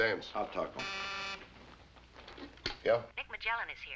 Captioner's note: buzzing